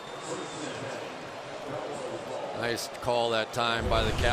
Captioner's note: pa announcement